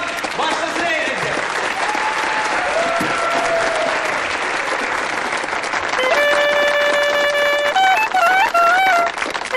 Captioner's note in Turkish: Alkışlar